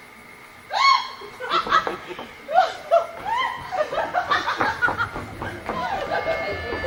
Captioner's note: Beatrice laughs in delight